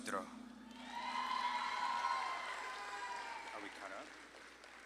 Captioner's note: audience claps and cheers